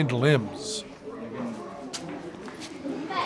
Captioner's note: chatter